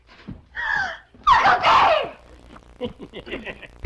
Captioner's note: screams